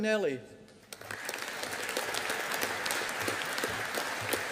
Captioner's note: audience applauding